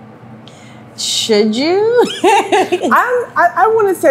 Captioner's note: laughs